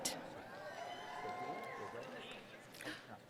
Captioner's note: cheering